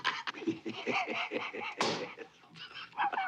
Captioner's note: LAUGHlNG